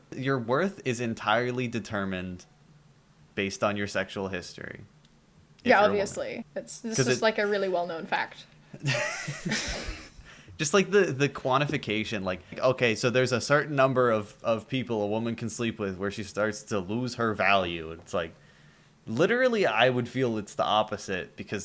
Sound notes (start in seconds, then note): 8.8 laughter